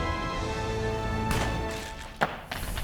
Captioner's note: gunshot